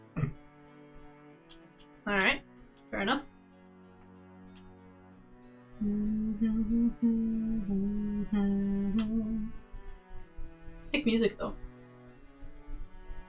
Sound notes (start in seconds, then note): 4.8 humming